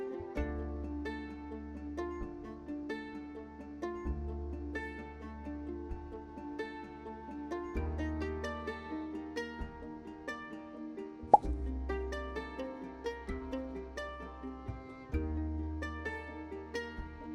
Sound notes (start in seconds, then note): 11.3 popping sfx